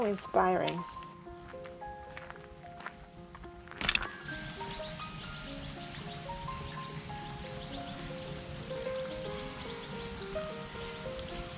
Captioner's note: instrumental music; nature sounds: waterfall, birds chirping